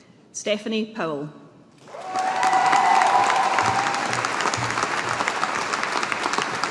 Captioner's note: audience applauding